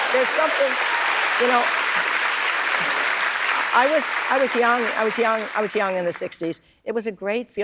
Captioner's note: applause